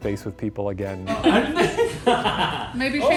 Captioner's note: team laughing